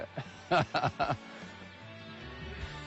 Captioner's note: laughs